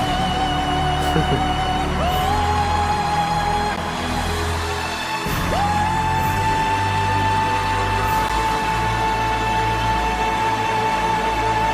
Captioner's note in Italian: Applauso